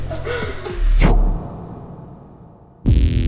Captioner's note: audio swoosh; intense music